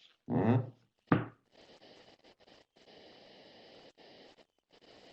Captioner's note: pause